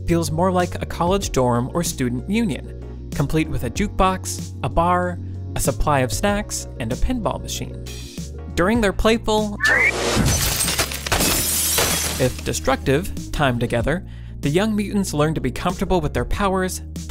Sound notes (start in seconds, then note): 9.6 screeching; 9.6 glass shattering